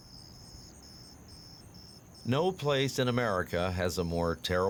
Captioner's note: insects chirping